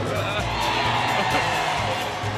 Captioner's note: crowd cheers